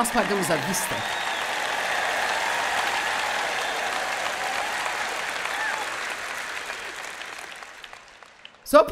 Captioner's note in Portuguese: audiência aplaude